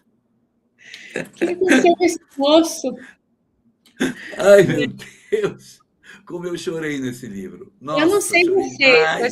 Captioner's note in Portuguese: risadas; limpando a garganta